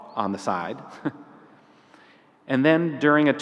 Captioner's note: laughs